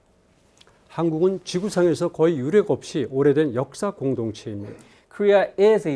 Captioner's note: speaking in Korean